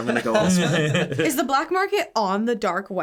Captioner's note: laughing